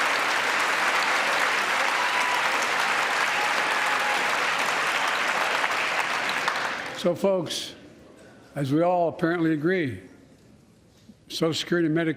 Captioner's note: applause